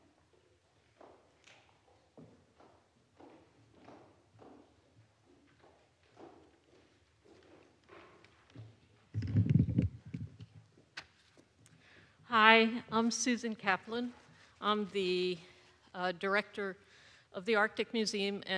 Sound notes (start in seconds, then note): none